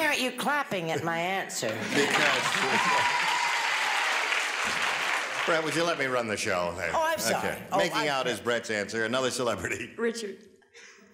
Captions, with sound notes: - Why aren't you clapping at my answer? [applause and cheering] - Brett, would you let me run the show? - Oh, I'm sorry. - Making out is Brett's answer. Another celebrity. - Richard.